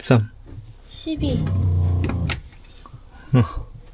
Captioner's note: sound of pump running